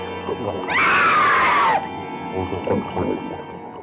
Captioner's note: screaming